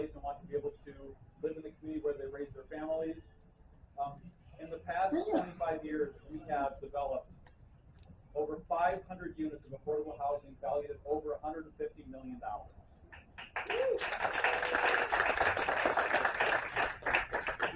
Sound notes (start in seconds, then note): 13.1 applause